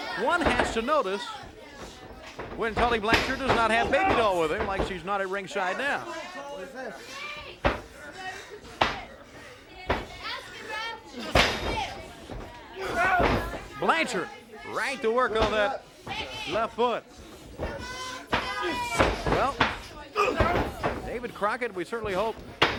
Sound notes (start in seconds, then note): 8.6 crowd chatter; 17.0 crowd chatter